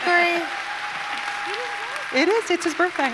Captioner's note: audience cheers